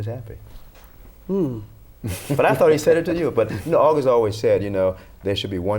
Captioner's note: laughter